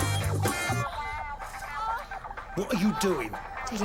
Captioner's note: woman moaning on TV